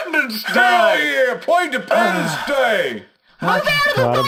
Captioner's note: aggressively